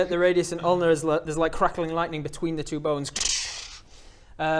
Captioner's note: krdsdsdszh